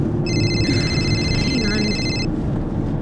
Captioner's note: phone ringing